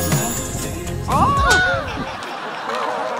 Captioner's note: wind blows